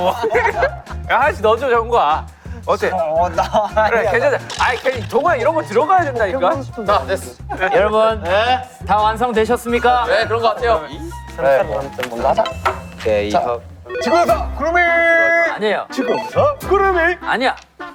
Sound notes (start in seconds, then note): 4.0 arguing